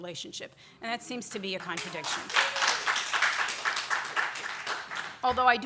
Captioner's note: audience applause